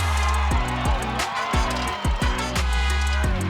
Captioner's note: cheers